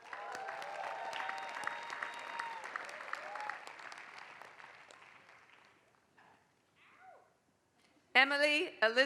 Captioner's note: applause